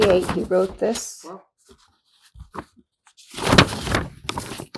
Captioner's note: pauses 6 seconds